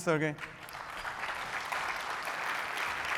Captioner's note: applause